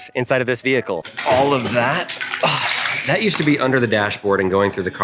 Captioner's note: sighs